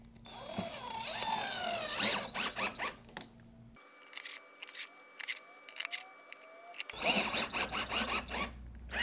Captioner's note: drilling noise